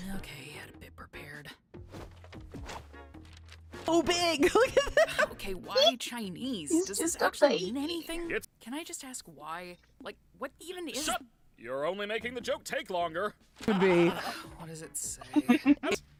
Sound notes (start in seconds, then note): 4.5 laughing; 14.9 sighs; 15.2 Kinger chuckles; 15.3 Caine laughs manically